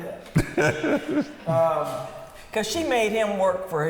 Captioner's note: laughing